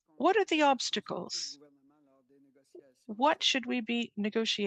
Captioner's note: speaking French